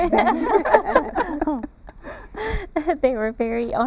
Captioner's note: laughter